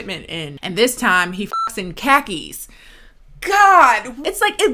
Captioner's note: beep